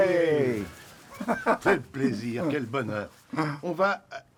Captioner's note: speaks french